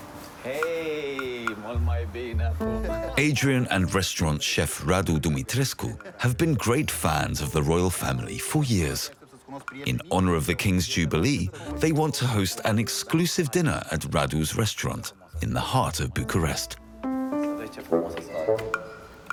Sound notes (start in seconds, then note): 0.5 speaking foreign language